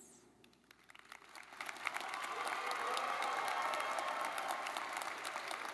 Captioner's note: audience cheering and clapping